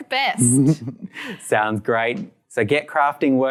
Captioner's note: laughs